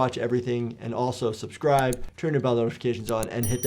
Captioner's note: mouse clicking